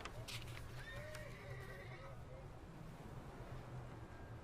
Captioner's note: horse neighing